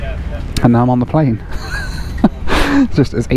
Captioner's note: laughs